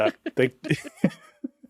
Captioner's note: laughing